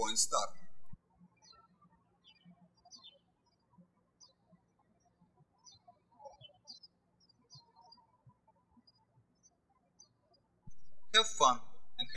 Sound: birds chirping

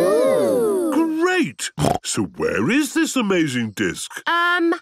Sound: snorting

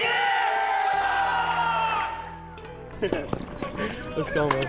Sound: crowd cheering

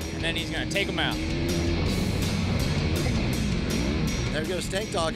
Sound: engines revving

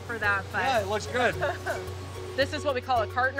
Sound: laughing

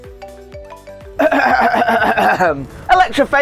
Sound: coughs into phone

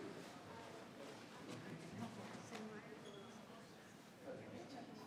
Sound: people continue chattering

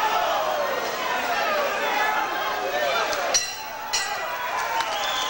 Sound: bell rings twice to end the 1st round; applause from the audience

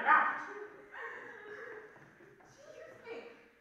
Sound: Luka sobbing

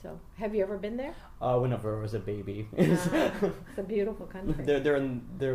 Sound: laughs

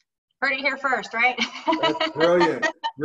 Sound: laughing

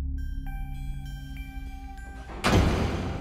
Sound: tense music; door closes

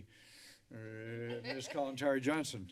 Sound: laughter

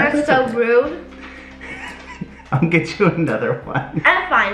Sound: chuckles

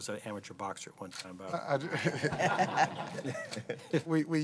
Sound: laughter

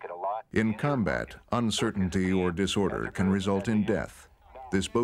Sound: voiceover

